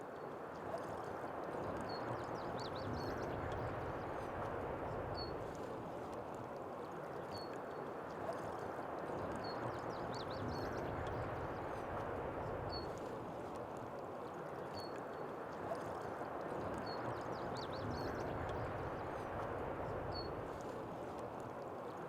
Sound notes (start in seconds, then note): 0.2 birds chirping; 3.3 bubbling water